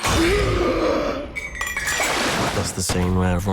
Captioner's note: gasps